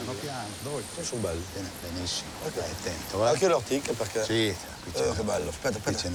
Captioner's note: speaks in foreign language